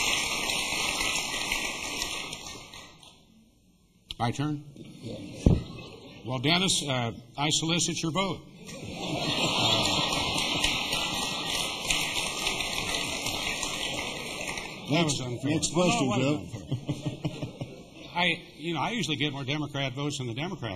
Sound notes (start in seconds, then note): 0.0 applause; 8.6 laughter